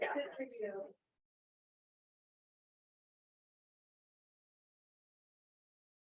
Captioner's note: board members chattering softly